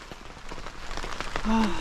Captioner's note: rain